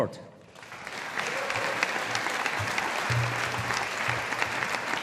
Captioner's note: audience applauding